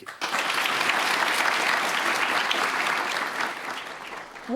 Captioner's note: applause